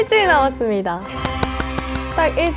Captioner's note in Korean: 짝짝짝짝